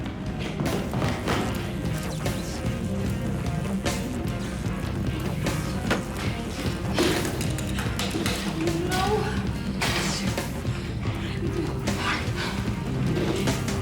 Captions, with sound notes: (lights buzz) No! What are we gonna do? - Hide.